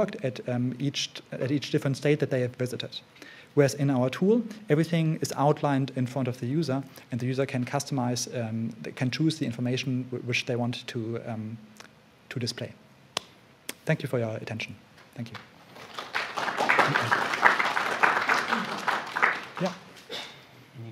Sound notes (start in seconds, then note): 15.2 applause